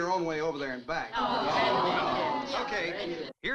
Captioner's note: crowd groans